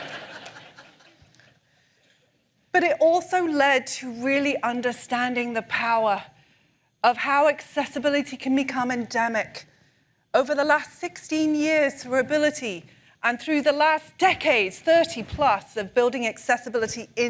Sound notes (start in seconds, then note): 2.1 laughter